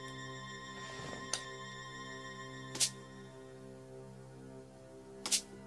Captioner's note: rubber band snap